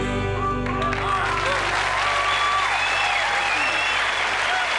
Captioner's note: cheers, applause